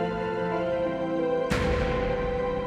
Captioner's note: door slams shut